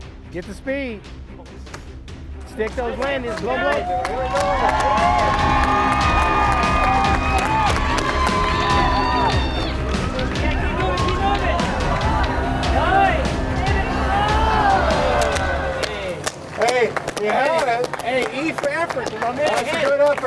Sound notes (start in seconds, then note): 3.7 crowd cheering